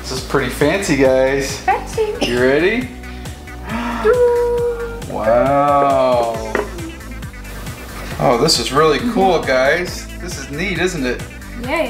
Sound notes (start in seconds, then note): 3.0 gasp